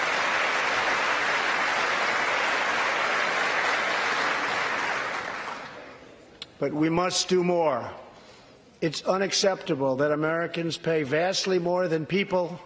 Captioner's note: applause